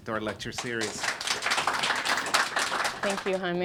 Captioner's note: clapping